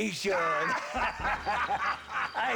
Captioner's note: laughs